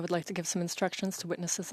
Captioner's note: speaking French